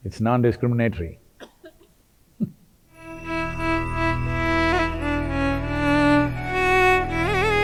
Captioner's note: laughs